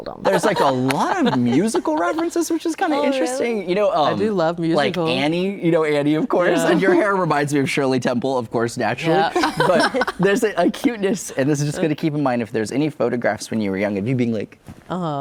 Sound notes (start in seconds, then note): 9.3 laughs